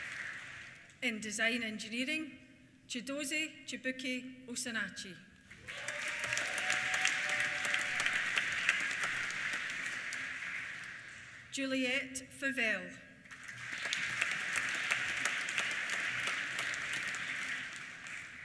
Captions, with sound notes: In Design Engineering, Chiedozie Chibuike Osinachi. (CHEERS) (APPLAUSE) Juliette Fuvel. (APPLAUSE)